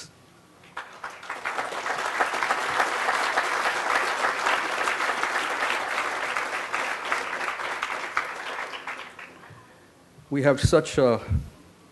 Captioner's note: crowd applause